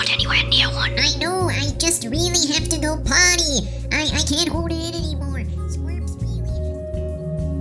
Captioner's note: voice fades out